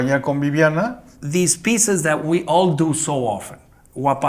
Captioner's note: in English